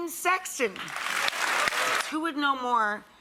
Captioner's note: audience cheering